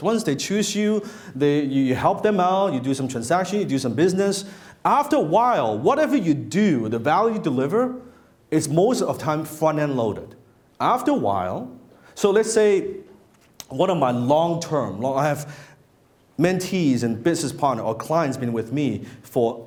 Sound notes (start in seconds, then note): none